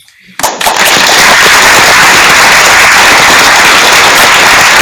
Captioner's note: applause